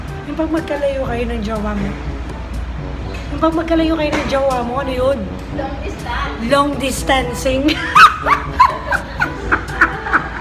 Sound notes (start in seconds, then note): 5.8 talking from afar; 7.7 laughing hard